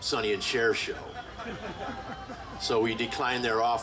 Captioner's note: group laughing